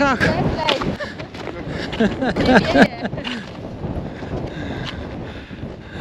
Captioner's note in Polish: śmiech